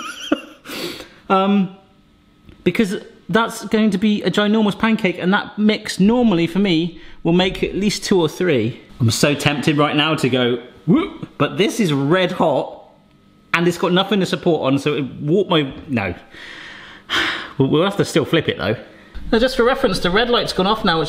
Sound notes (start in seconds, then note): 0.1 laughing; 17.1 sighing